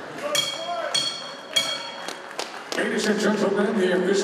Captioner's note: bell ringing